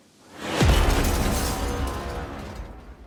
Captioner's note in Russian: Бабах